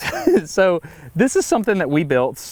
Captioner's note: Destin giggles